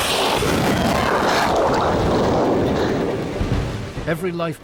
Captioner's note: flare swooshes and blasts; water gurgling